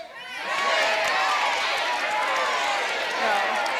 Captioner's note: audience shouting